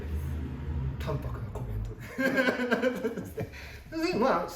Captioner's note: laughs